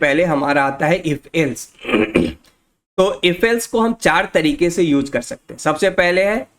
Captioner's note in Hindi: गला साफ़ करने की आवाज़